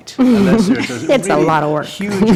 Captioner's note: laughter